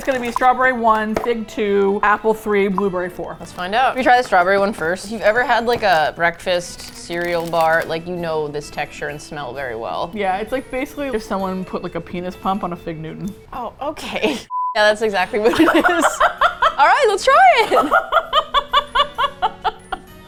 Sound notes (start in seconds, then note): 13.0 with disgust; 14.1 laughs; 15.5 both laugh; 17.2 laughs gleefully